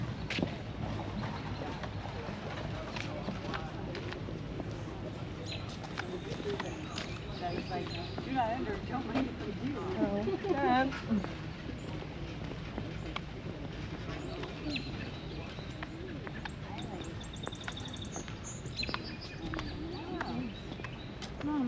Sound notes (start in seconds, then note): 7.2 birds Chirping